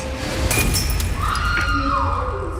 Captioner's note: screaming